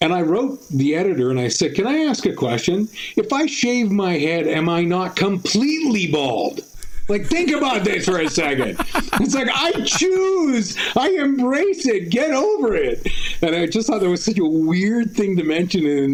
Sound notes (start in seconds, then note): 8.9 laughter